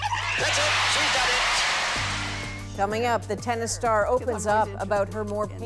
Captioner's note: cheers and Applause